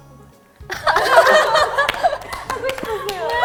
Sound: hahaha

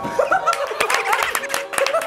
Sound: haha

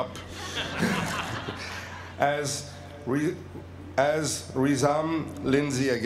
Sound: laugh

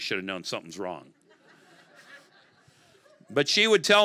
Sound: congregation laughing

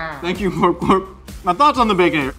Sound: Glorp-Glorp exclaims

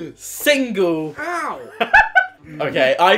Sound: laughs

